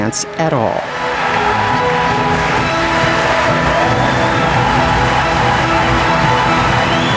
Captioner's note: audience cheering; dramatic orchestral music